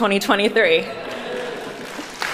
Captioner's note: indistinct chatters; applauding